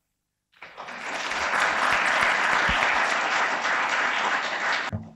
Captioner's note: audience applauds